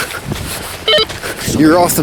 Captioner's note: walkie talkie bleeps